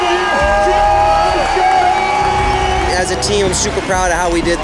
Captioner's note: people cheering